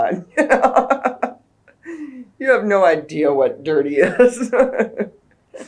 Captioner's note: laughs